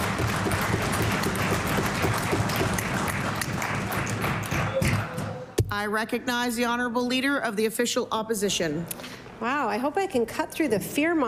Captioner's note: cheering/Applause